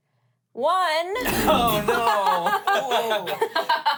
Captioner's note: laughs